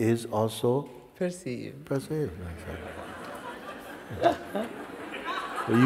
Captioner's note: laughter